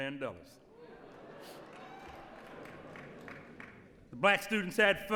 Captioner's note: applause